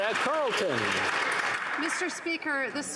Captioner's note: some Applause